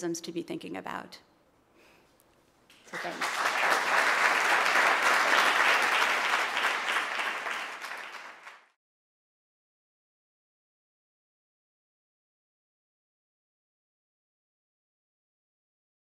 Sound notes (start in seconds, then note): 2.7 applause